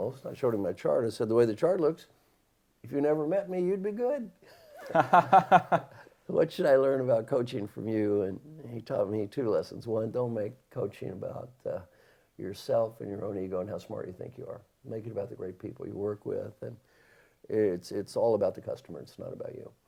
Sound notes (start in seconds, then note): 4.5 laughter